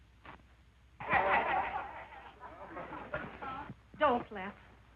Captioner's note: men laughing